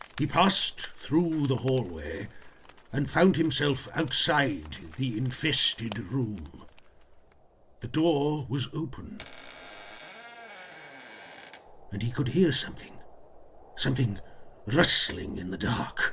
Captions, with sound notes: He passed through the hallway and found himself outside the infested rule the door was open. [Door creaks] and he could hear something rustling in the dark.